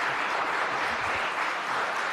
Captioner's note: applause